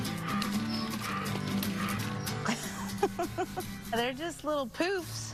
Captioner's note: laughing